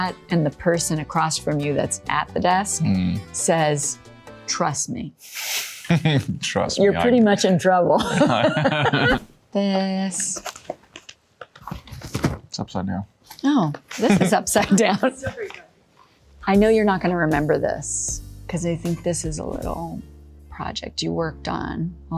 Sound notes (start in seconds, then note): 7.9 Laura and Liam laughing; 7.9 laughing